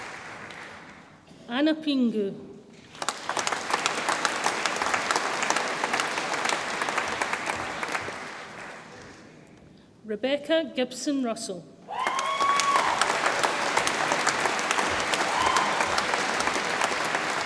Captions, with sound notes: Anna Pingou, (audience applauds) Rebecca Gibson Russell, (audience applauds and cheers)